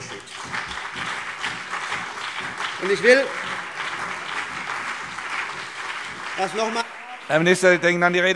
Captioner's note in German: Beifall CDU und BÜNDNIS 90/DIE GRÜNEN